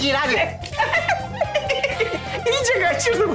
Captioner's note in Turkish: Gülme sesleri